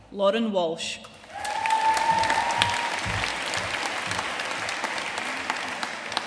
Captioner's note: audience cheering and applauding